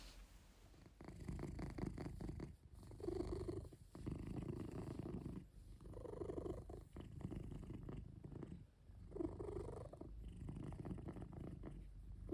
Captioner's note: purring